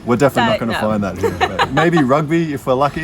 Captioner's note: laughs